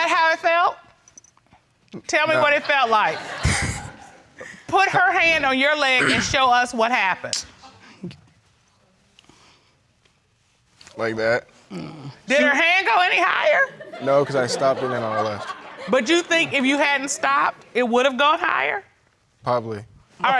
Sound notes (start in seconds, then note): 2.3 audience laughing